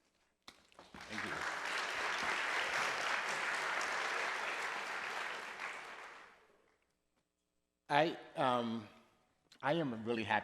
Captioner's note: applause